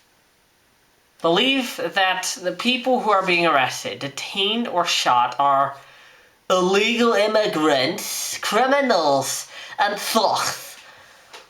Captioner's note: in a soyak voice